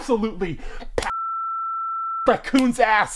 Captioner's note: loud beep